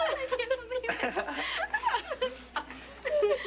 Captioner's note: laughter